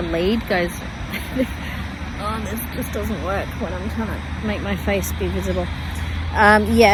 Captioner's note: scoffs